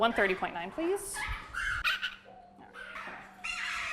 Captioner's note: birds chirping